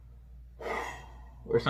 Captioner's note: sigh